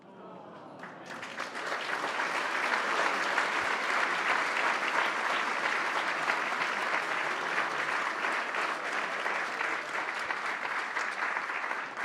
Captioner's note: applause